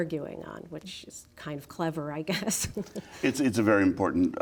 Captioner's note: chuckling